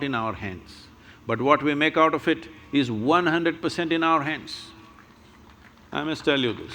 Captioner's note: applause